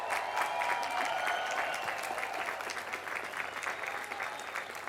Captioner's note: applause